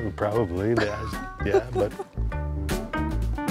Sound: laughs

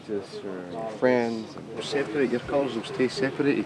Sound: machine whirring

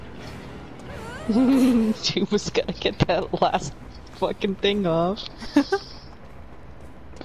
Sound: giggling; laughs

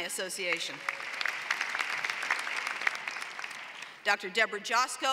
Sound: applause

